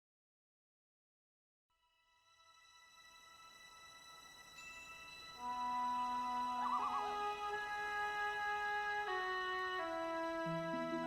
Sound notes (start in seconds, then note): 1.9 gentle instrumental music; 6.1 bird calling